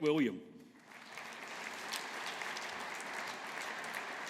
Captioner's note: audience applauding